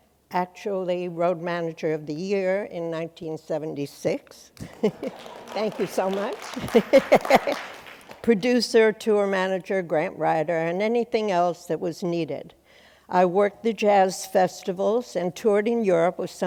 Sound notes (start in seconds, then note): 4.6 chuckles; 4.6 applause